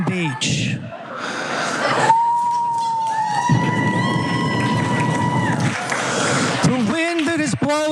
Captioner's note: applause